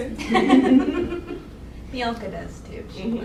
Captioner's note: laughing